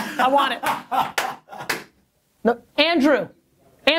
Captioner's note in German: lacht und klatscht